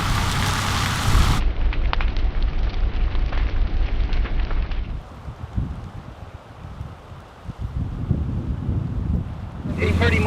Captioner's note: sound of crackling flames and engine idling; soft sound of fire crackling and wind